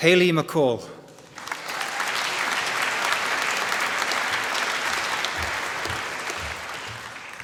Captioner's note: applause